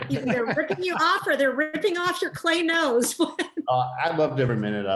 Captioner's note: laughs